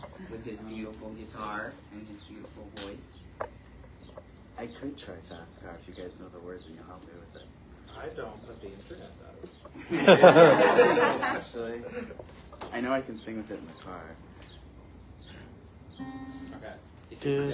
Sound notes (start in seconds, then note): 9.7 laughing; 16.0 strumming